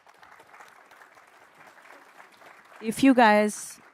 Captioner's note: applause